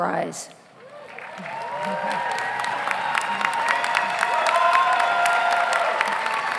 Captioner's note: audience applauds; audience cheers